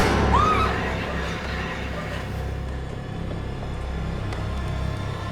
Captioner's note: loud sinister music; Elaine screams; dark menacing music